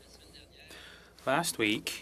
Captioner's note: speaking French